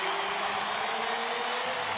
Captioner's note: crowd cheering